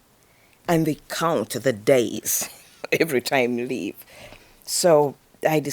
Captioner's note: laughs